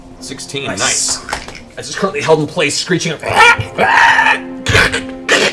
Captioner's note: screech, crunch